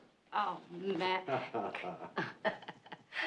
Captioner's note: kıkırdama